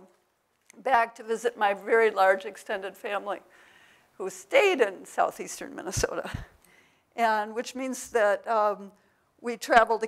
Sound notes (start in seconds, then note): none